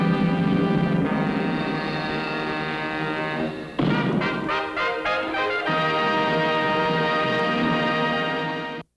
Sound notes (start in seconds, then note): 2.4 ominous music; 3.7 cannon booming